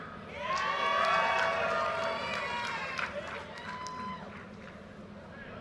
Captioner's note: audience cheers and applause